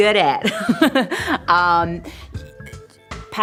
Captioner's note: laughs